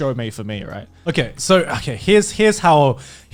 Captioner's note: laughing